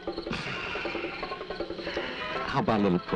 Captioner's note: sighing